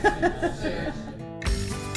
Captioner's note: laughter; upbeat music